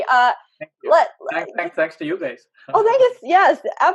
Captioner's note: chuckles